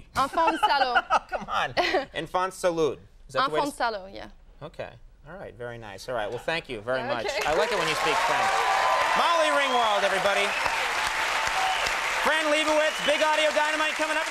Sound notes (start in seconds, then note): 0.4 Conan laughs; 8.5 audience cheering